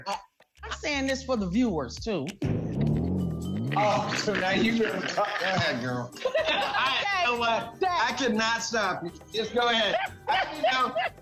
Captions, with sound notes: [laughter] - Oh, so now you-- go ahead, girl. You know what? I cannot stop you. Just go ahead.